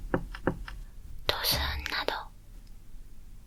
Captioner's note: thump